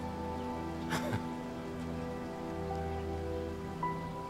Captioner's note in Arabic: نيك يضحك